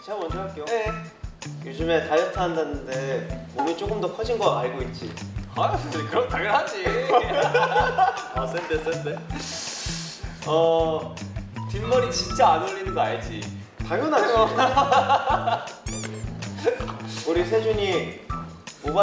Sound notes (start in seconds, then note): 9.3 A deep breath